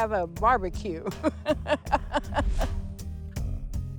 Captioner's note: laughs